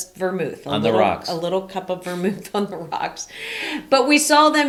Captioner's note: chuckles